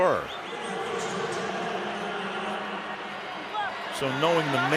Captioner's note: pa announcement